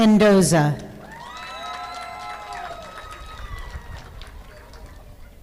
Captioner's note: audience applauding